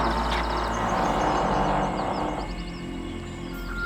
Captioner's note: door creaking; ominous music